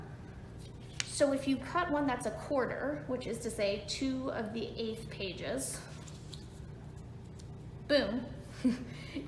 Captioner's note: chuckles